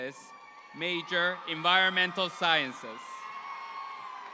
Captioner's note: audience applauding